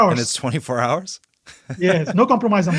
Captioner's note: laughs